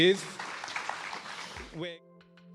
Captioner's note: audience applauding; soft music